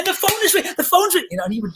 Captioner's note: claps hands